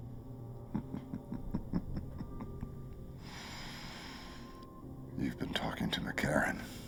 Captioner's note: laughing